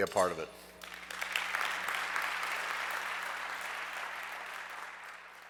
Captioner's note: audience clapping